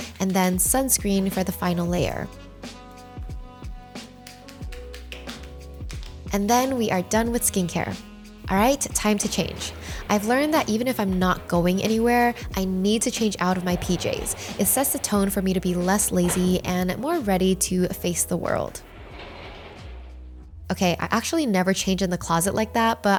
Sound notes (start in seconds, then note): 3.0 gentle music continues; 4.4 palms patting; 18.9 doors swishing